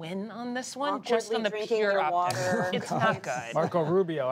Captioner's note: laughter